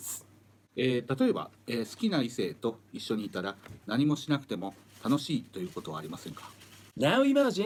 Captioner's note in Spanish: Hablando en japonés